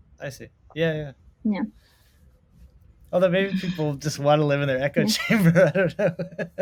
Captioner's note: laughs